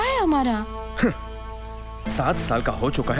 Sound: scoffs

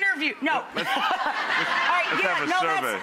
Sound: laughs

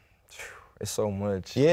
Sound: sighs

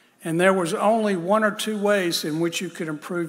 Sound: none

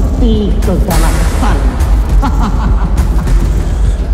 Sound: CAK JON laughs

